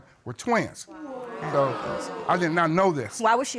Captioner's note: audience exclaiming